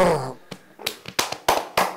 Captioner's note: vigorous clapping